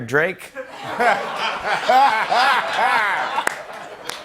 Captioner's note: laughter